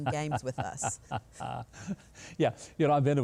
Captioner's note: Mike laughs